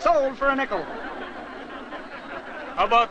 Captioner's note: crowd laughs